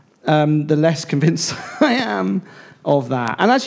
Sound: laughs

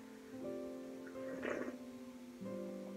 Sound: annoying loud tea slurps

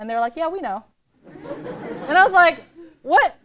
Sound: laughter

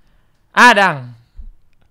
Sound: speaking in Minang

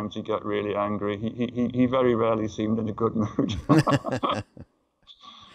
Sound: laughter

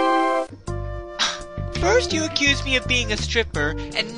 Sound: scoff

